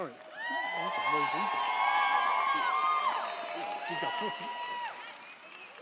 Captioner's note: crowd cheering; crowd clapping